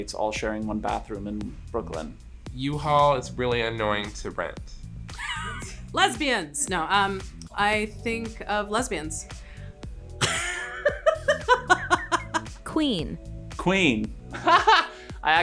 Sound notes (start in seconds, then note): 10.2 Sara laughs; 14.3 Antoni laughs